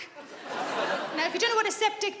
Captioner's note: audience laughing